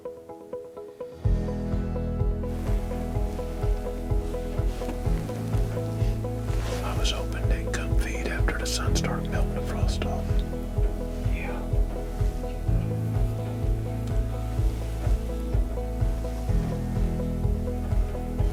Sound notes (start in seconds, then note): 1.9 whispering